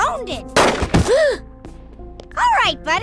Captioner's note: gasp